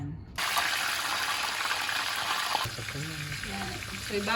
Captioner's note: frying